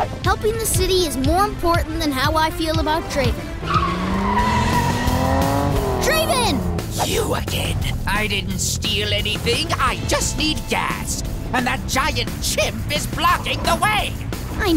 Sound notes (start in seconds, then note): 3.3 engine revving; 3.9 tires screeching